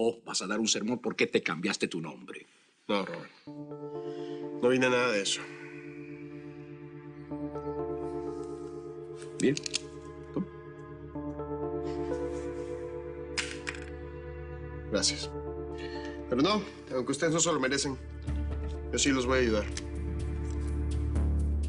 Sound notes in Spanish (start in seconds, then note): none